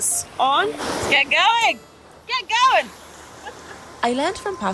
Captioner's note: laughs